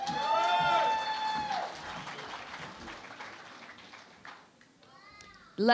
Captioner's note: cheering and Applause